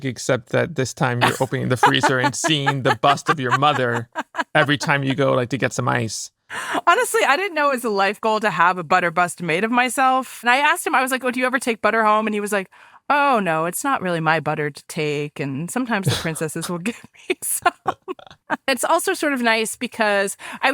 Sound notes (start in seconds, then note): 16.0 laughs